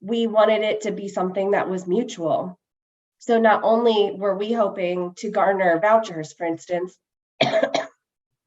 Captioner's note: coughs